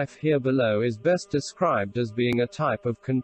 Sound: voice reads

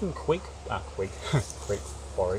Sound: laughing; laughs

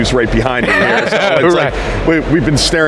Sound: laughs

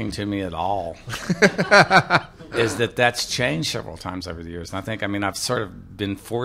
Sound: laughter

